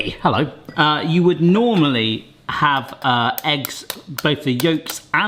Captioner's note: knife bashes